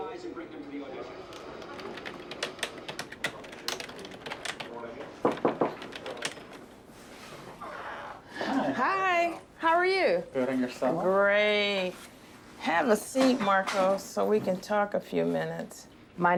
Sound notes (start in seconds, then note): 1.3 tapping keyboard; 4.9 knocking on door; 7.4 door creaking